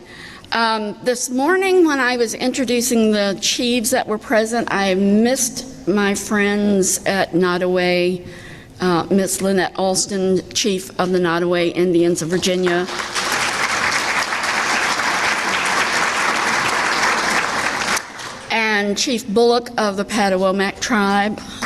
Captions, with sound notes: This morning when I was introducing the Chiefs that were present, I missed my friends at Nottoway. Ms. Lynette Alston, Chief of the Nottoway Indians of Virginia. (clapping) And Chief Bullock of the Patawomack Tribe,